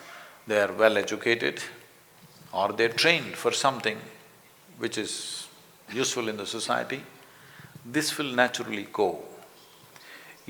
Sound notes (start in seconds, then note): none